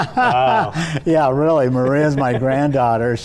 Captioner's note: laughter